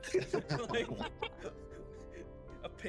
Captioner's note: laughs